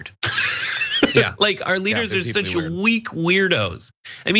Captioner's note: laugh